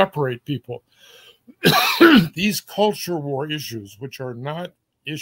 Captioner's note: cough